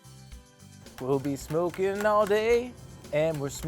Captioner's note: scraping